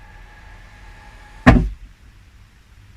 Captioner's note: hitting